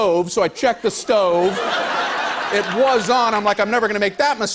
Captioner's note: laughter